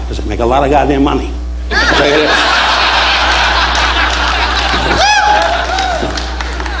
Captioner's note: audience laughing